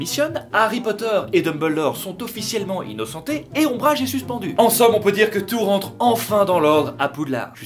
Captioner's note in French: none